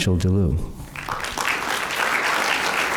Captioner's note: applause